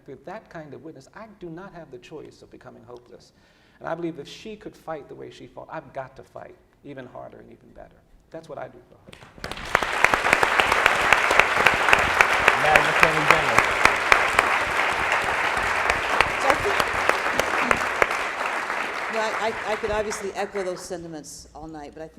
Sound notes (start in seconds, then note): 9.7 applauding